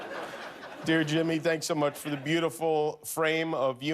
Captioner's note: laughter